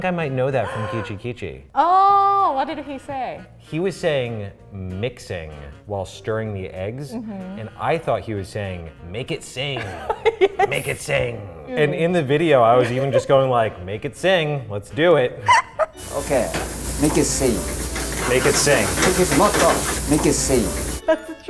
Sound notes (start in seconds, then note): 0.6 gasps; 9.7 laughs; 15.4 laughs; 16.5 speaks in foreign language; 19.3 speaks in foreign language